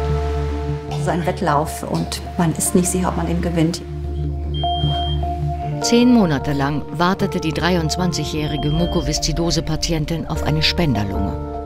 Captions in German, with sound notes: Es ist ein Wettlauf und man ist nicht sicher, ob man den gewinnt. (Piepsen) Zehn Monate lang wartete die 23-jährige Mukoviszidose-Patientin auf eine Spenderlunge.